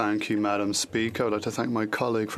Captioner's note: speaking French